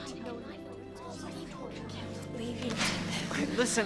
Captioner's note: crowd mumbling